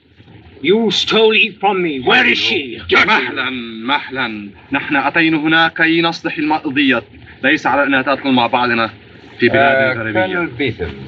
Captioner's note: Hana Speaking Native Language